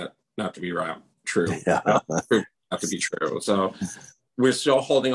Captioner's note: laughs